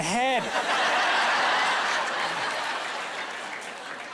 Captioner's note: laughing